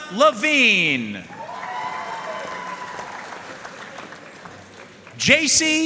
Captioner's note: audience cheering and applauding